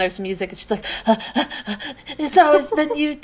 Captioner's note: panting